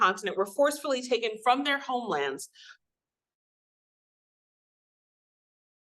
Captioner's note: audio cuts out